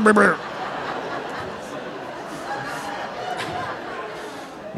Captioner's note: audience laughing